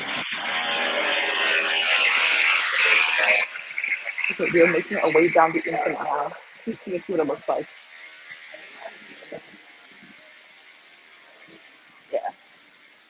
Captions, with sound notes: (machine whirs) We are making our way down the in Infinite isle. Just see what it looks like. Yeah.